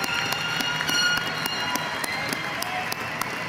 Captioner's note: applause